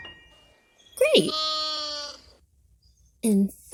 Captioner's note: piano twinkling; Malachi baa-ing